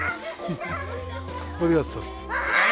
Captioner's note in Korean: 웃음